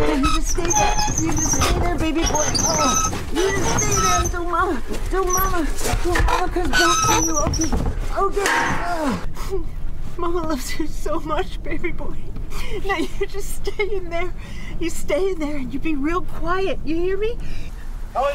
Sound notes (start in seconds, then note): 8.2 sobbing; 8.8 metal clanging